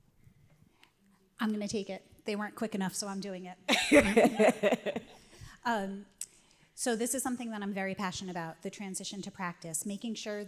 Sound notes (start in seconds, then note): 3.8 laughs